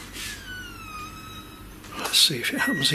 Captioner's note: door creaking